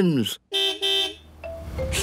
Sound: car beep

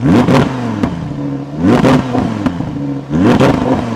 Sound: engine revving

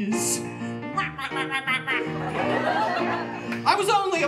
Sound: penguin noises

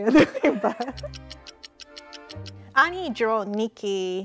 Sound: timer ticking

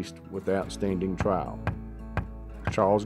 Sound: gavel tapping

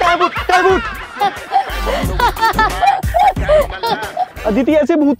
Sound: laughing

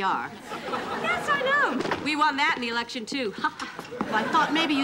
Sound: laughing

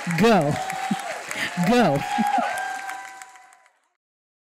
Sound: applause

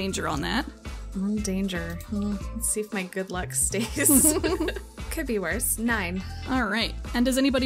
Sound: laughs

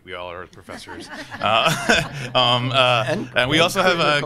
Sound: all laughing

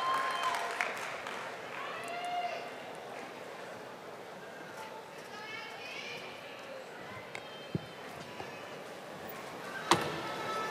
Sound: audience applauding and cheering

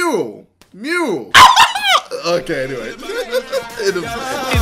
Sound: shrieks with excitment

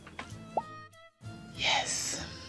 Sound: popping

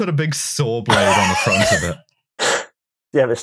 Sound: laughs

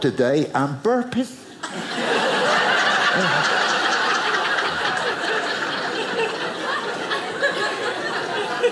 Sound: audience laughing

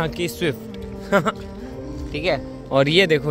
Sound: chuckles

